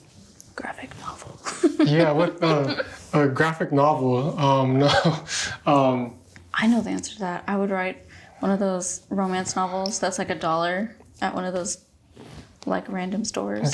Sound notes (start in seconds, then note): 1.5 laughs; 5.5 chuckles